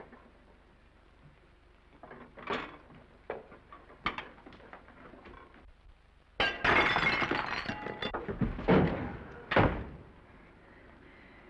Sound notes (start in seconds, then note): 0.1 plates clattering; 6.4 tray shatters; 9.5 Norman thuds